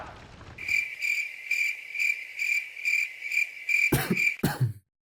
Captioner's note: cricket chirps; cough cough